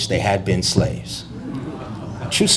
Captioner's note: audience gasps